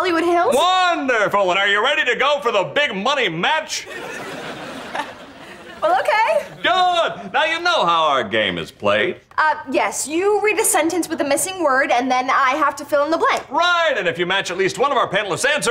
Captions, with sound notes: Wonderful. Are you ready to go for the big money match? [chuckles] Well, okay. Good. Now you know how our game is played. Uh, yes. You read a sentence with a missing word, and then I have to fill in the blank. Right. And if you match at least one of our panelist's answers,